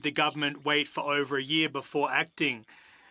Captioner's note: speaking French